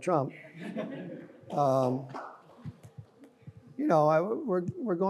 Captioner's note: audience laughs